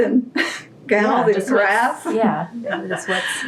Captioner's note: laughter